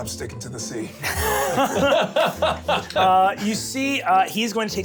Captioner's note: laughs